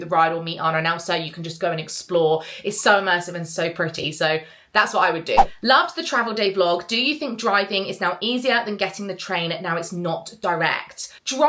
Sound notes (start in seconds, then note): 5.3 screen fwipping